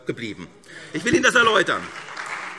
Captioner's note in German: Beifall SPD und DIE LINKE